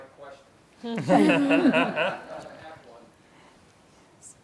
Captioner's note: laughing